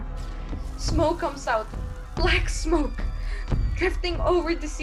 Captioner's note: sound of heat ray and fire throughout